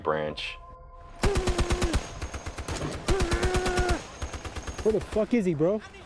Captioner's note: machine gun rattles